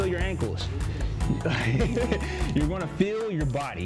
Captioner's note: laughs